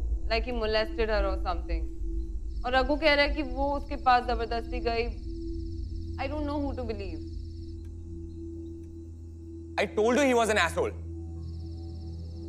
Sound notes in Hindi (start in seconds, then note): none